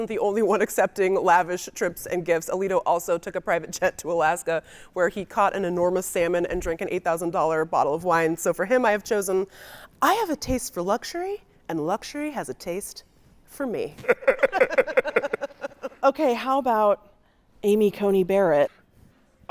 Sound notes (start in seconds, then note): 14.0 laughing; 14.0 guy laughing